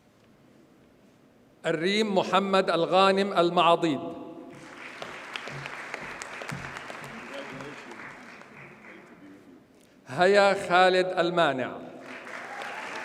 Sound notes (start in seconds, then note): 4.5 audience applauds; 12.0 audience cheers and applauds